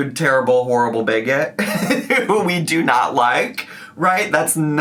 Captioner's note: laughs